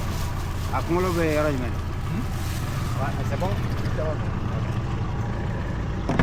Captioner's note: men speaking in foreign language